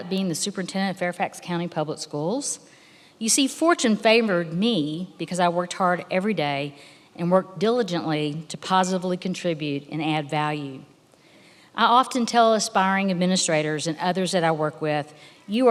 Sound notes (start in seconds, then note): none